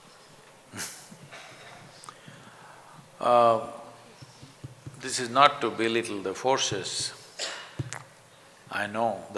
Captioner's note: laughs